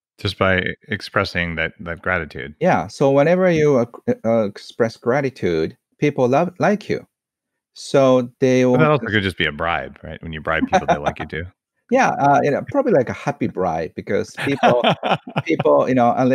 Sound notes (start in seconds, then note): 10.5 laughs; 14.3 laughs loudly